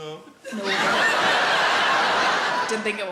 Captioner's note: audience laughs